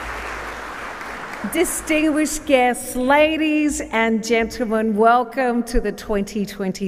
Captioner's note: applause